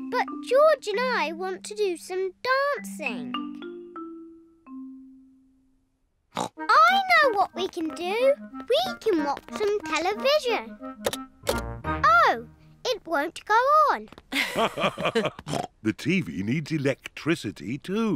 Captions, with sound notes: But George and I want to do some dancing. (SNORTS) I know what we can do! We can watch some television. Oh, it won't go on! -(BOTH LAUGH) -The TV needs electricity, too.